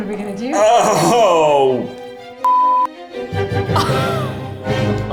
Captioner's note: beep; orchestra music